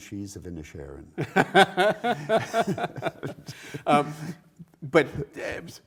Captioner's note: co-Presenter laughs